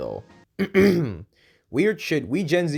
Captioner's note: ahem